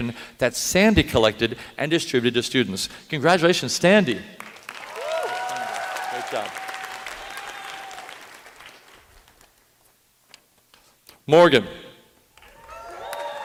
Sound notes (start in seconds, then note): 4.4 applause